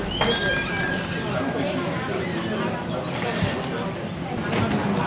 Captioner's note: doorbell rings